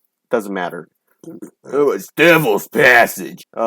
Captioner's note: uncomfortable Burping